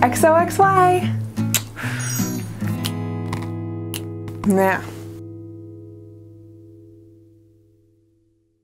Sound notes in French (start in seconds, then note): 1.4 bruit de bisous; 3.9 claquement de doigts; 5.1 musique de fin